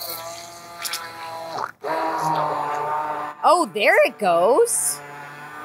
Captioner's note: blender whizzing